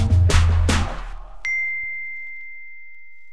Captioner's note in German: Klingeln